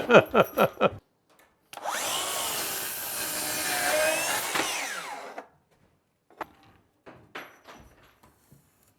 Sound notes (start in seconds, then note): 0.0 laughs; 1.7 sawing sounds